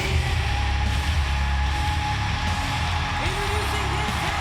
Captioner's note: crowd cheering